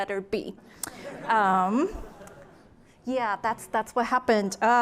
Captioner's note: laughter